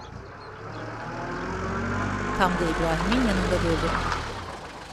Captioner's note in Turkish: Araba sesi